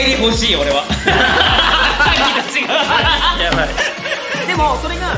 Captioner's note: all laugh